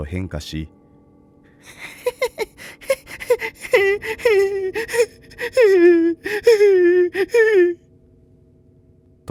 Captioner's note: sounds of crying